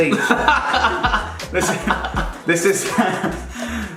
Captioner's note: laughs